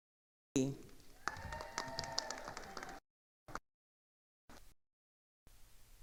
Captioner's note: attendees applauding